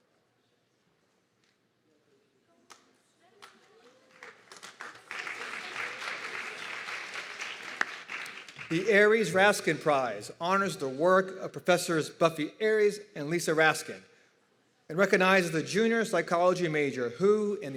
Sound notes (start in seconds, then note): 5.4 audience clapping and cheering